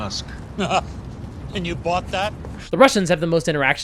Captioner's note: laughs